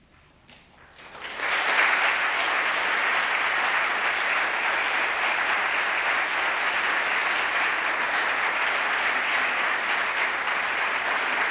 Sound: applause

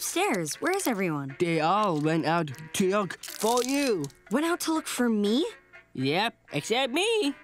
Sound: none

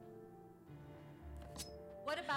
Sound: knife scraping

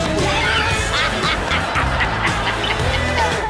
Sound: laughing

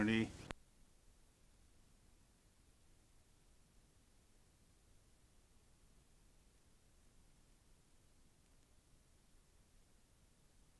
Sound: silence

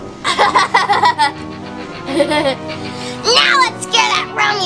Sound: laughs

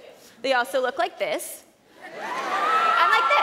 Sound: cheers

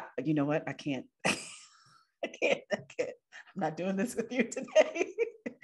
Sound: laughs

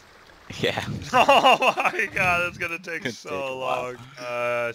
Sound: laughs

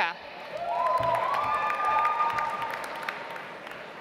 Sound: audience applauds

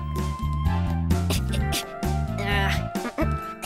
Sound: grunting

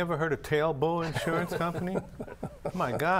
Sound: chuckling

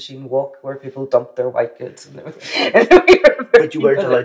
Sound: laughs

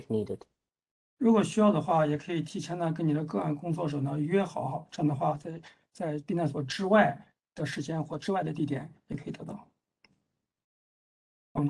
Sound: speaks in Mandarin

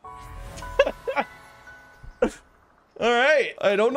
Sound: laughing

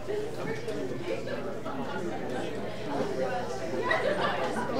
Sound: audience chattering

